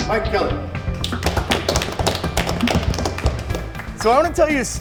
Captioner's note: audience claps